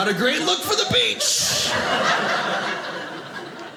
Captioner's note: audience laughing